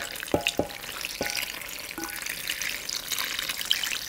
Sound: pouring soup

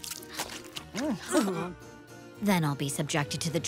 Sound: gags

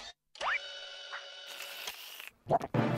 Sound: slurping

